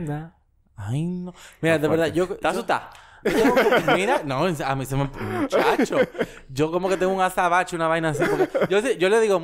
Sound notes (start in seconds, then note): 5.1 laughs